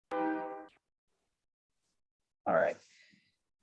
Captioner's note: train horn blaring